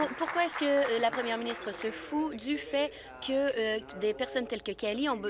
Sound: applause

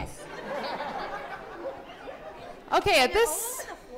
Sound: laughter

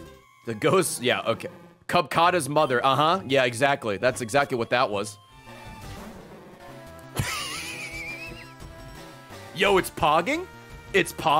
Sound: laughs

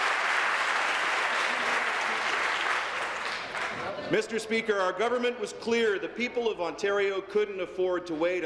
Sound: applause; continued applause

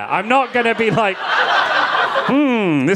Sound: audience laughing

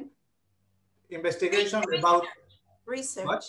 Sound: speaking Hebrew

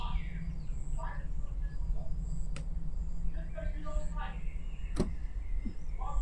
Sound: couple arguing in distance

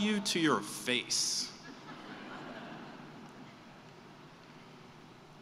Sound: laughter

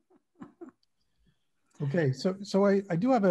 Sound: laugh

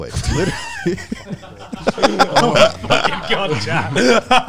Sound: all laughing

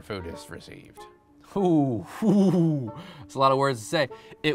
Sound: laughs

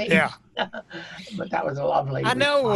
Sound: laughing

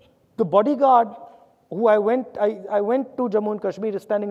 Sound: none

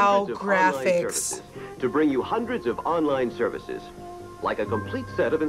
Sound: voice-over

